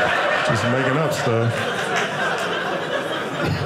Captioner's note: audience laughing